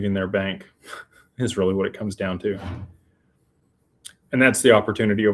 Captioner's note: snorts